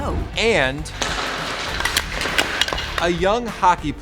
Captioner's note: hockey stick clatters